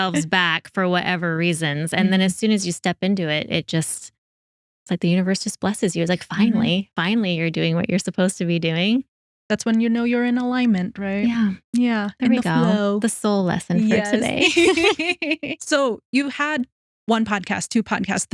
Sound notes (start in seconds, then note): 15.6 both Laughing